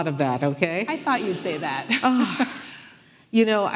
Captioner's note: audience laughing